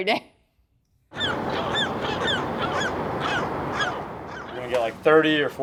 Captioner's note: seagull squawking